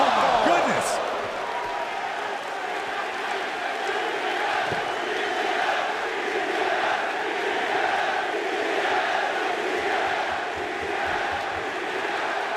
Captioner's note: crowd cheering